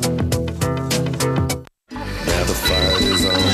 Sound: cell Phone Ringing

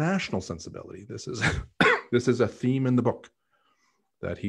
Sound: coughing

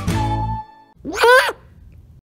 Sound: bird squawk

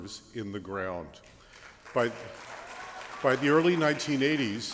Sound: applause

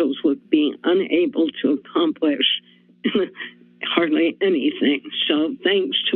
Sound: chuckles

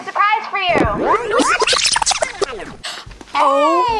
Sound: video tape whining

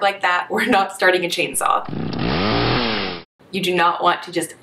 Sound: whirrrrrr

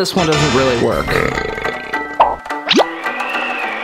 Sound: burps

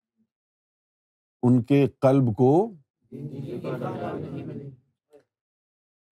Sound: audience replies

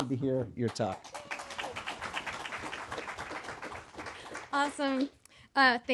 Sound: audience applauding

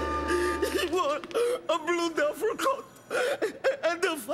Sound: crying

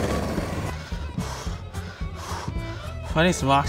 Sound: breathes heavily

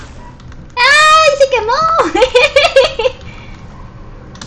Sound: laughs

